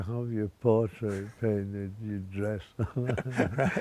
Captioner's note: laughter